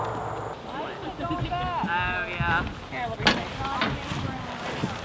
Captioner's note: women chatting